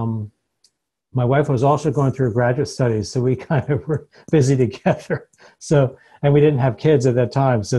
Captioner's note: chuckles